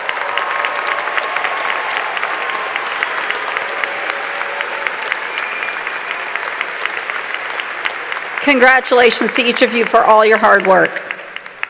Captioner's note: cheers and applause